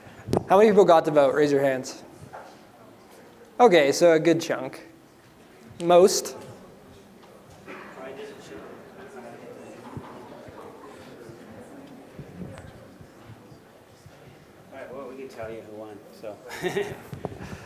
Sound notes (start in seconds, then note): 6.6 chatter